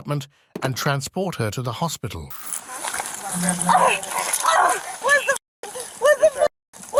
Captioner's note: screaming